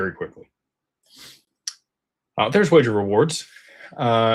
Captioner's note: snorts